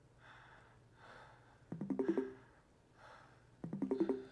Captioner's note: computer bleeps